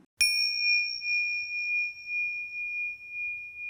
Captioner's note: bell ringing